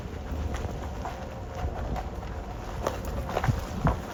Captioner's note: snow crunching